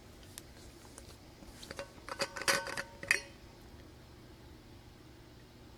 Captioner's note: metal clanking